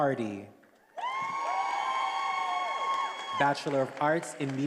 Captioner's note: attendees applauding and cheering